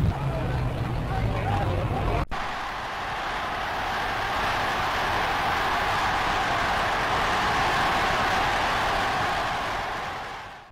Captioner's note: cheers